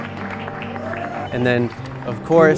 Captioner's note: clapping